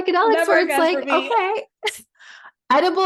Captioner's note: laughs